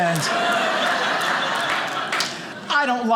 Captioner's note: audience laughing